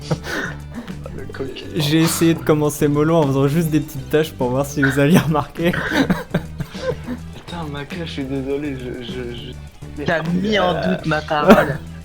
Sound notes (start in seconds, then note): 5.7 laughing